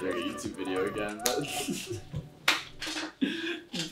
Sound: drunk giggles

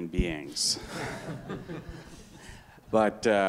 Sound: audience and panelist laughing

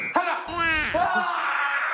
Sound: squealing

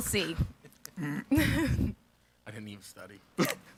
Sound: chuckling

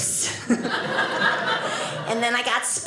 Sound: audience laughing

